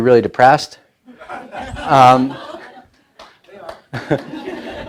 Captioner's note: laughing